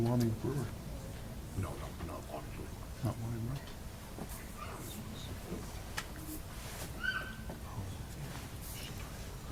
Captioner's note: low chatter in background